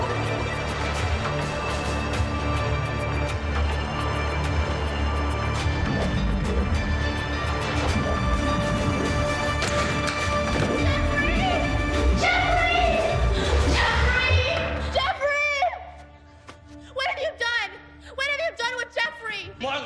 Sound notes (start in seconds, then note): 0.1 ominous and tense electronic music; 9.7 doors rattling; 11.3 Christian thuds to floor; 12.8 pulsing electronic effects